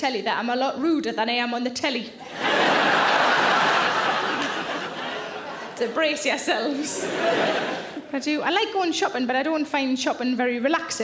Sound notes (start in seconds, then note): 2.2 audience laughing